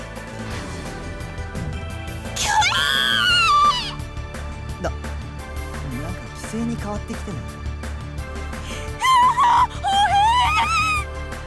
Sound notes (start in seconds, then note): 5.1 whisper